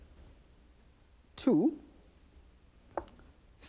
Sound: none

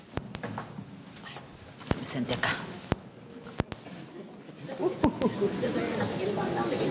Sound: speaking in a foreign language

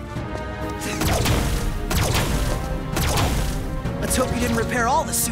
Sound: blasting

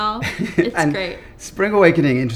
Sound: chuckles

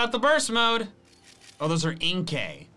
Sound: photo snapping

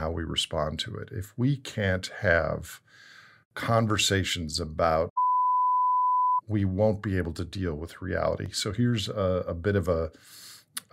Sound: beep

